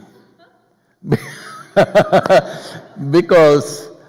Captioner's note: laughs